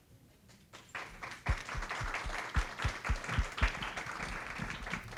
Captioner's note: audience clapping